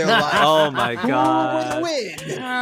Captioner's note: all laughing